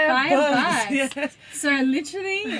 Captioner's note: laughing